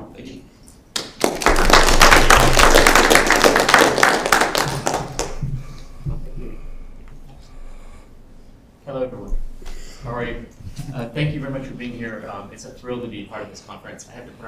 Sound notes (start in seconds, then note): 0.9 applause